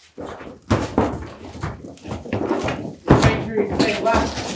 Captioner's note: footsteps pounding